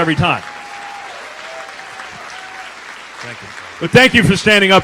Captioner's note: applause